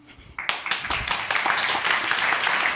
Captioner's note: applause